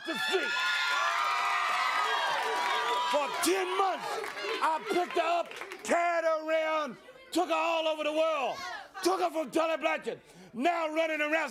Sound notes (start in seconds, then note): 1.6 crowd cheering